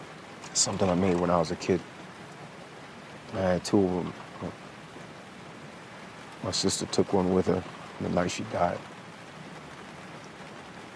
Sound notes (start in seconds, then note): none